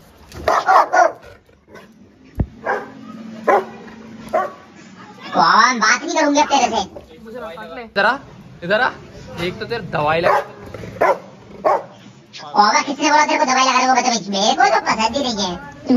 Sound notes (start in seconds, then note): 0.4 Roxy is barking vigorously; 1.9 continues to bark; 10.2 Roxy is barking